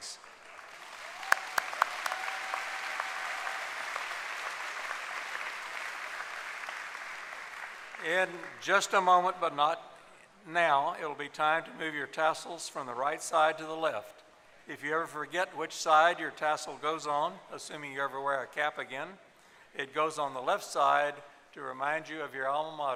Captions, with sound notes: They are Daniel Calhoun, Chris Mcalpine, and Paul Teel. Thank you, colleagues. [applause] In just a moment, but not now, it will be time to move your tassels from the right side to the left. If you ever forget which side your tassel goes on, assuming you ever wear a cap again,